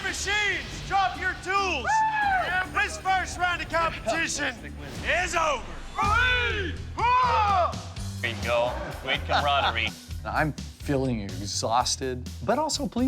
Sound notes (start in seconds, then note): 5.9 cheering together